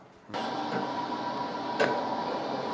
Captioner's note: bread trough operating